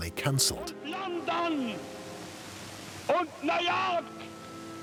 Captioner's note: speaking German